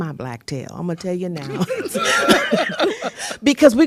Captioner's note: laughter